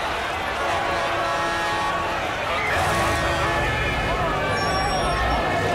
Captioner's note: sirens blaring